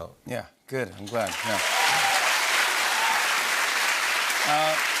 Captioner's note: cheers and applause